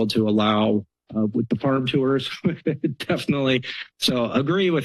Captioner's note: laughs